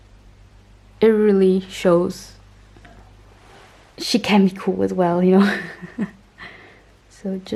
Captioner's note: haha